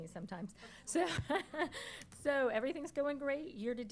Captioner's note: laughs